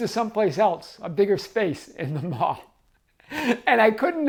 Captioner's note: chuckling